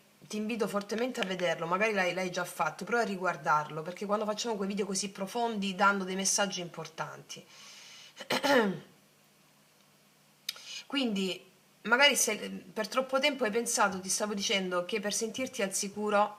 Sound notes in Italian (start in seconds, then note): 8.2 schiarire la voce